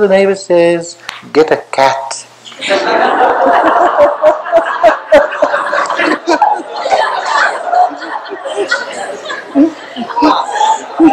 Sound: laughter

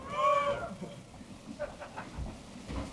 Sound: cheering

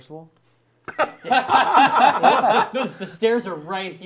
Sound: laughing

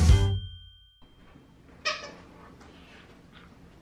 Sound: sqeaking of toy

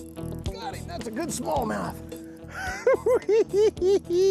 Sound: giggling

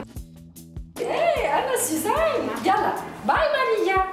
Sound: speaking French

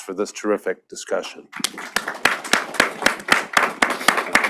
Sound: applause

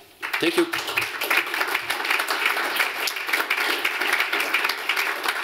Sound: applause

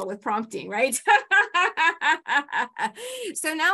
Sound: laughs

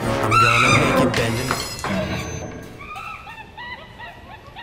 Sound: monkey grunting; screaming

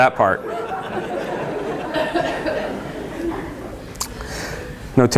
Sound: laughter

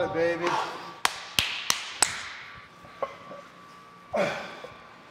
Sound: applause

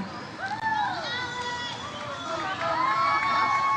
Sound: audience cheers

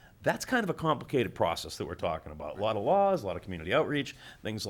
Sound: none

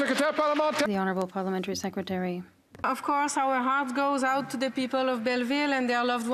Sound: some Applause

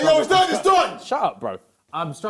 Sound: JJ shouts

